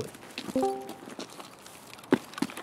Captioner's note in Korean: 디스코드 소리